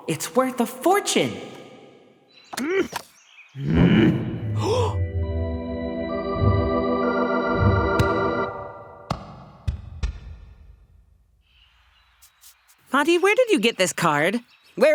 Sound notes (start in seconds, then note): 3.6 growls; 3.6 gasps